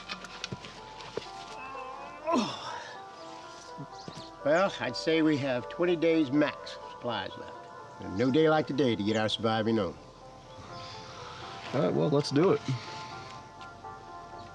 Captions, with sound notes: (Dave groans) Well I'd say we have 20 days max of supplies left. No day like today to get our surviving on. - Alright, well let's do it.